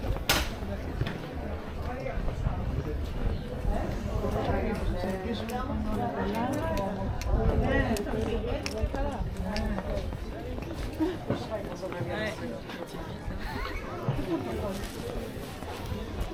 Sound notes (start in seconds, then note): 4.6 people chattering